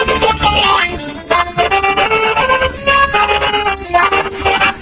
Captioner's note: cackling maniacally